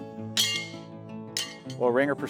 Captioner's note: mellow music; horseshoe clanking